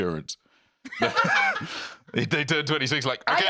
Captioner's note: laughs